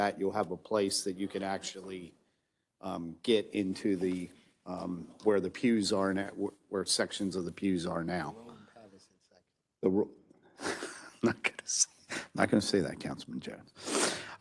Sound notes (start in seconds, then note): 10.6 laughs